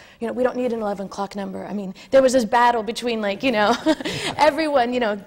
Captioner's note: laughs